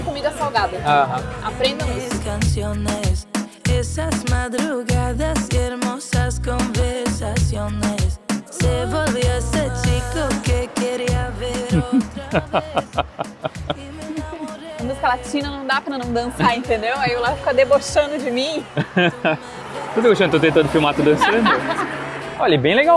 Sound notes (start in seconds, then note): 8.4 laughter